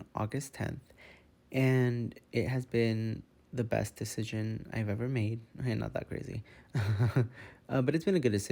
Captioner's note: laughing